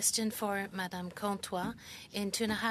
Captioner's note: speaking French